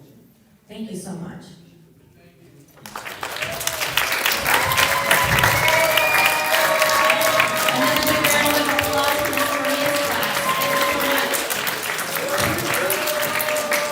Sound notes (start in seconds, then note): 2.8 applause